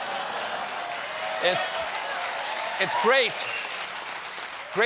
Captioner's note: cheers and applause